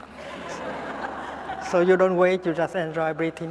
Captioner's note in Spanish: Risas